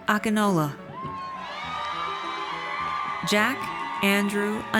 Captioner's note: audience cheers